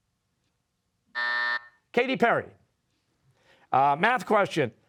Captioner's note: buzzer